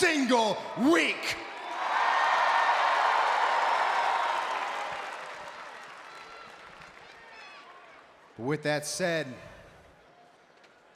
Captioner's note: applause